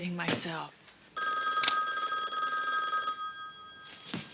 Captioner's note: ringing